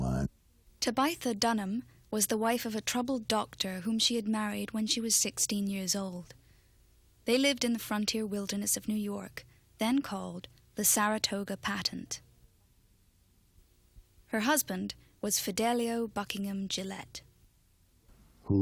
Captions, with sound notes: - [Voiceover] Tabitha Dunham was the wife a troubled doctor whom she had married when she was 16 years old. They lived in the frontier wilderness of New York, then called the Saratoga Patent. Her husband was Fidelio Buckingham Gillette.